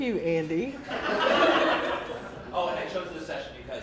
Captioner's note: laughing